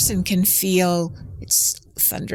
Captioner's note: thunder rumbling